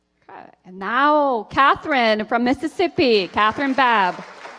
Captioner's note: applause